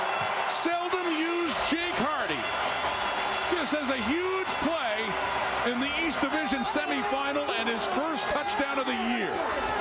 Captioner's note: crowd Noise